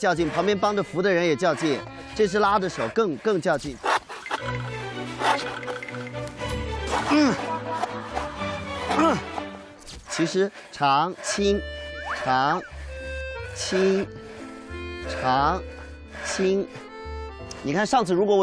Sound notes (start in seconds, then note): 6.3 gnashing; 6.9 grinding